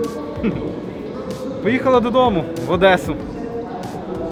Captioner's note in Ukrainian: Сміється